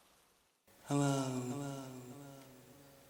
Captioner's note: echoes